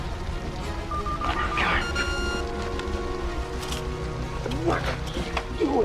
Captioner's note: machine beeping